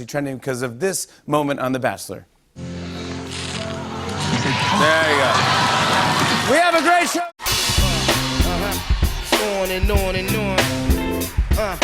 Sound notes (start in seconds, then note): 2.5 laughter; 2.6 tranquil tune plays